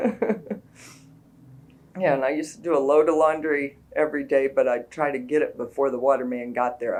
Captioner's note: laughs